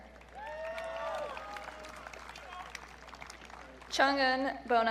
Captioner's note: audience cheering